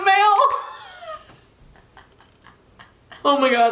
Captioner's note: laughing